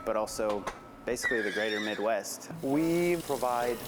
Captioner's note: horse neighing